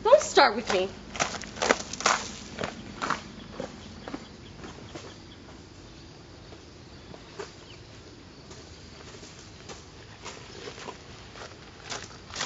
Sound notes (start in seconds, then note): none